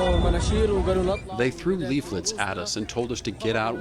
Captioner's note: through translator